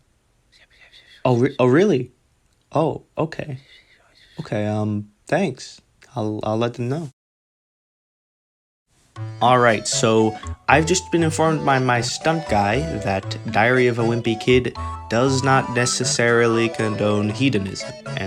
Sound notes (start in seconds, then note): 0.6 whispering; 2.4 whispering; 4.0 whispering; 5.8 whispering